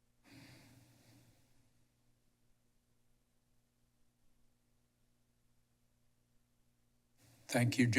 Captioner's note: silence